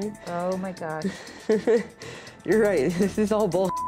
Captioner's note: giggling